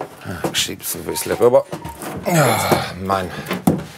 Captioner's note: moans